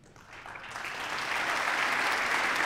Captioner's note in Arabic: تصفيق